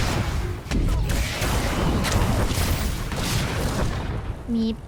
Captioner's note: gunshots